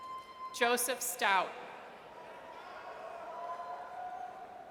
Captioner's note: audience cheers